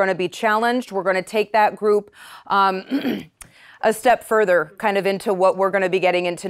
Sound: clears throat

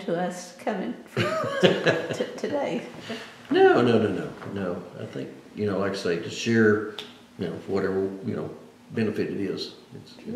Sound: laughs

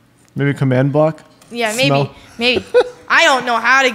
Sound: laughs

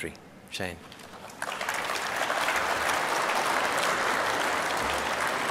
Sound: applause

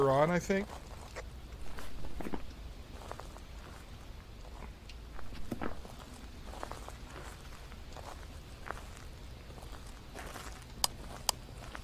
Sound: footsteps

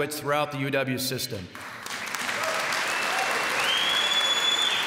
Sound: applause

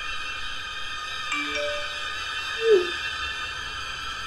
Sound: text alert

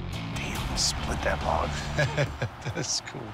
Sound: laughs

